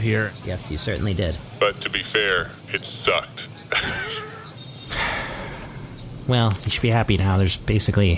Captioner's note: laughs; sighs